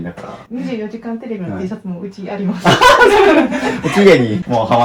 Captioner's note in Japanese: 笑い